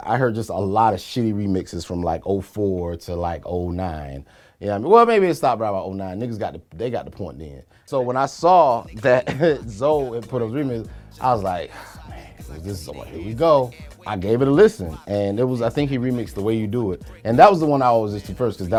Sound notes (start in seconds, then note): 8.9 chuckles; 11.6 sighs